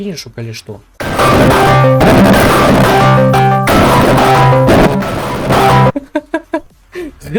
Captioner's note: Discord bass-boosted